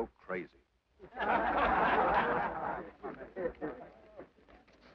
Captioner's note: men laugh